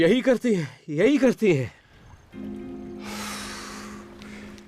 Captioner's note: exhales